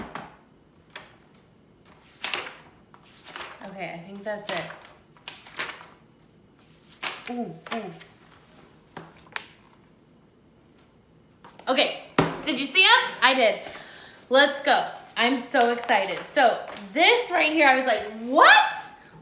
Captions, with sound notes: (pages flipping) Okay, I think that's it. (pages flipping) Ooh, ooh. Okay, did you see it? I did. Let's go, I'm so excited. So, this right here, I was like, "what?"